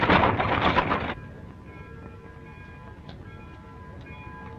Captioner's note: bells ringing